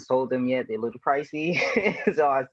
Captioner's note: chuckles